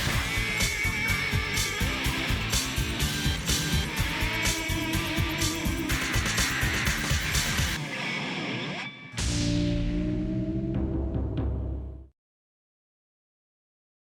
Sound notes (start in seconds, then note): 3.6 hard rock music continues; 9.2 drums thumping; 9.2 logo ringing